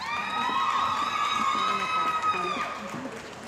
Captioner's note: cheering & Applause